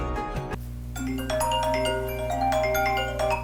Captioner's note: phone ringing